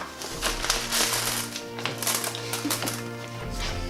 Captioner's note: rustling bag